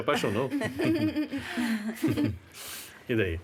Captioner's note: chuckling